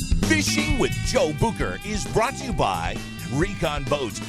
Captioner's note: voiceover